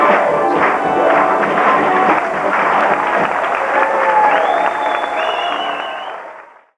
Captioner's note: cheering and applause